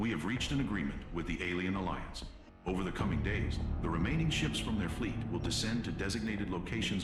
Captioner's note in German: none